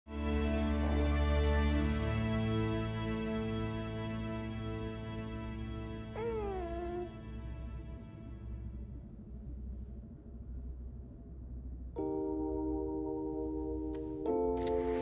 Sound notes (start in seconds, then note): 6.1 baby cooing